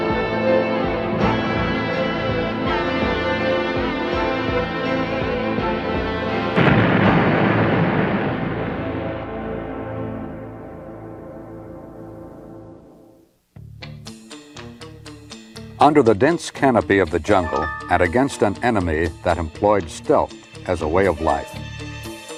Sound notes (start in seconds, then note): 6.6 explosion booming; 13.6 pensive music